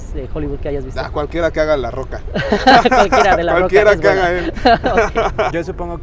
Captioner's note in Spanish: risas